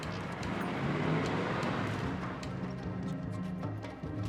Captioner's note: engine rumbling